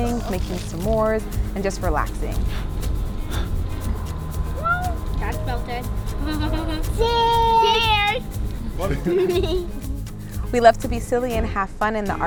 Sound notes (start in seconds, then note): 2.8 blowing; 2.8 upbeat music; 8.8 family laughing